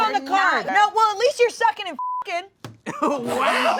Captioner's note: beep